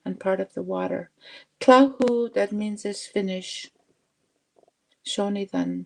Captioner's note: speaking Indigenous language